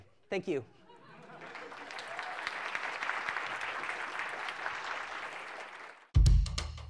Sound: applause

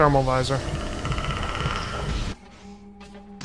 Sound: yasha/predator noises

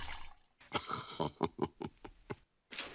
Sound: Buzz chuckles

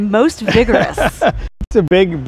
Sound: laughs

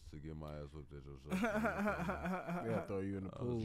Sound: laughs

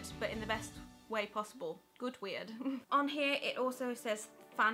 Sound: laughs

